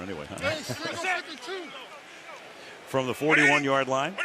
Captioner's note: players shouting